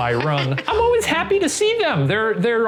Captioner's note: laughing